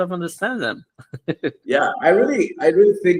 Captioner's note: laughs